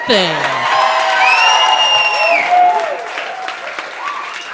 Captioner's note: audience applauding